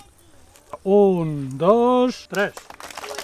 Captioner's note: applause